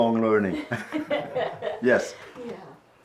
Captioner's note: laughs